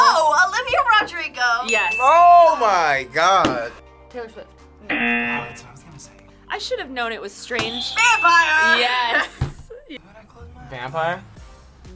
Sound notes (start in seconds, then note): 1.6 bell dings; 4.9 buzzer sounds